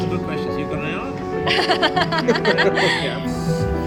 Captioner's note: laughter